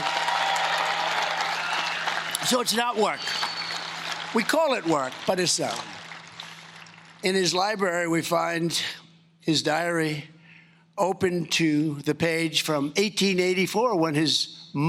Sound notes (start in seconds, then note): 4.5 cheering and Applause